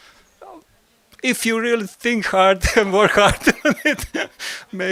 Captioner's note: laugh